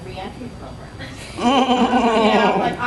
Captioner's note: laughing